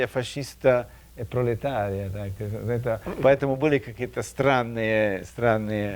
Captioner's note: speaking in a foreign language